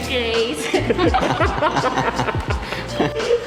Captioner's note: laughing